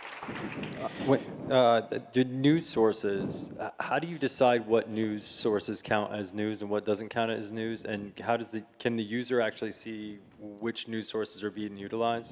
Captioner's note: applause